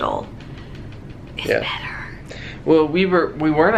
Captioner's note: whispering